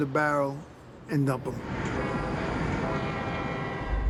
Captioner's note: horn blares